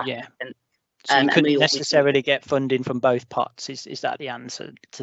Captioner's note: murmurs